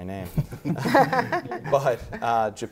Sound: panel laughter

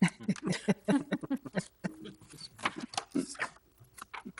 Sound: people laughing

